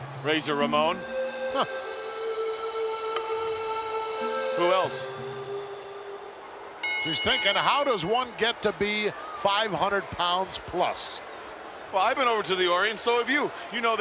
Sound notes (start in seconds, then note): 6.9 bell rings